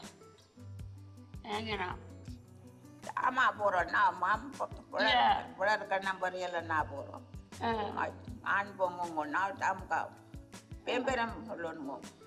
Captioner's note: speaks foreign language